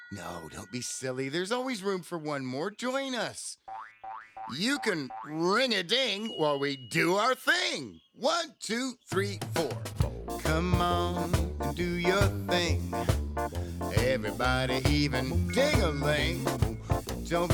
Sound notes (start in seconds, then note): 0.0 bell rings; 3.7 spring bouncing; 9.9 ska music